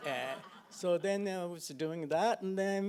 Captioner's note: audience laughing